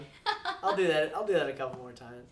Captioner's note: laughs